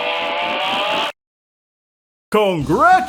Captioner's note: awkward silence